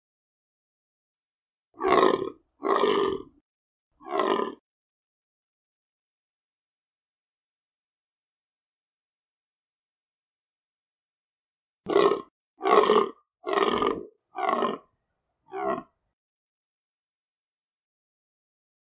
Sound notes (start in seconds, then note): 0.0 bellowing deer